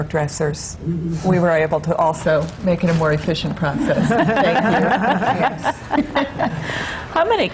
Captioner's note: laughter